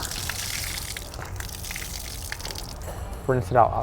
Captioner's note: water splaters